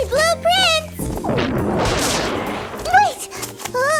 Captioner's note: thunder sounds